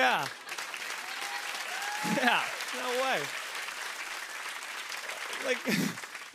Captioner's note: cheers and applause